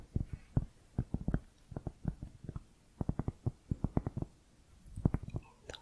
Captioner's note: tapping on cork